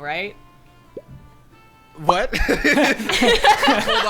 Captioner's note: bubble popping sound effect; players laughing